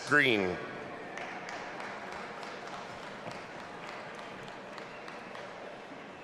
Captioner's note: audience applauding and cheering